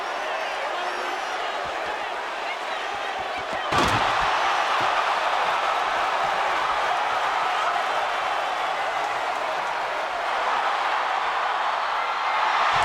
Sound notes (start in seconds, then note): 3.4 bodies thud; 4.0 audience groans